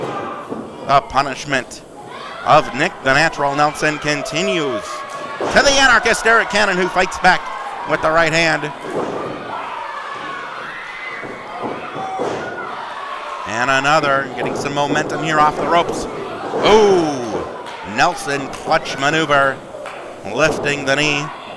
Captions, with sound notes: A punishment of Nick "The Natural" Nelson continues. To "The Anarchist" Arik Cannon who fights back with the right hand. (audience cheering) And another, getting some momentum here off the ropes. Ooh, Nelson clutch maneuver, lifting the knee.